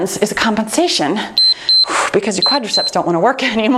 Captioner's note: timer beeps